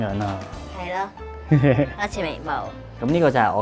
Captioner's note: laughing